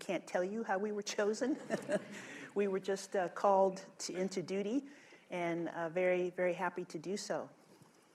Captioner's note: laughter